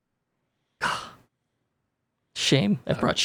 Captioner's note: sighing